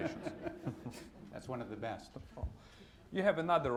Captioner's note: laughter